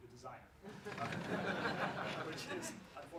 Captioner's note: laughs